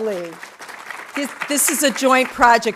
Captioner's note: audience applauding